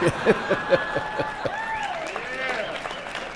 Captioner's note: some laughter